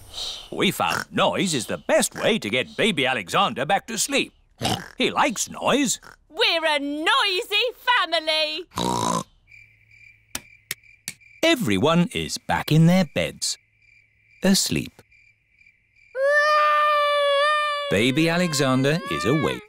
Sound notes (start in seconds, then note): 4.6 oinks; 16.1 baby alexander crying